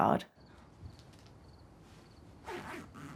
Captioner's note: crickets chirp